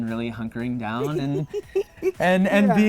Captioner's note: laughing